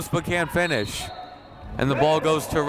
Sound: whistle blowing

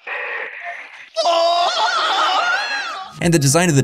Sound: yelling

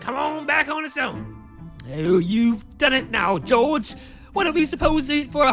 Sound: low Rumbling

